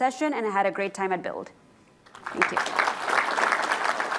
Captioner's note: applause